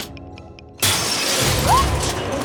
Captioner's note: device clicking; Kirsten yelps